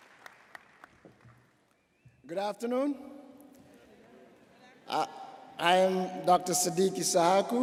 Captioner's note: applause